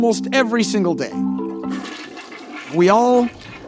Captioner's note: toilet flush